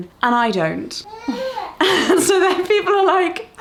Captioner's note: coos